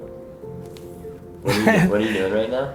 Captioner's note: laughs